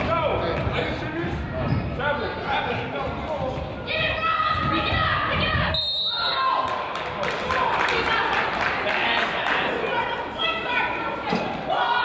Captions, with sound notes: - Travel. - Pick it up, pick it up. (whistle blows) (crowd applauds)